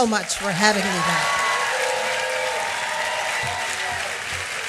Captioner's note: applause